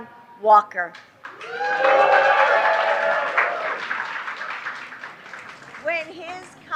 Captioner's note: applause